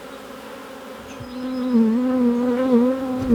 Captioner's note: buzzing near a microphone